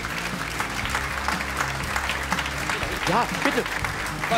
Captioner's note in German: Applaus